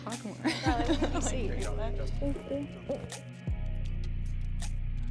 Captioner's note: laughs; lo-fi hip hop music